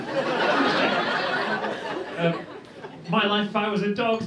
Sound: laughter

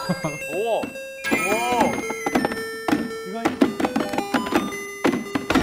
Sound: knocking table to beat

